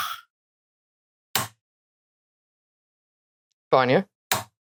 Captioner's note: click